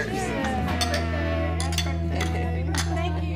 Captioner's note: glasses clinking